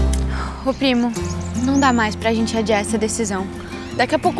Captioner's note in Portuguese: Pássaros